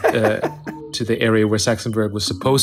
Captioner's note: laughing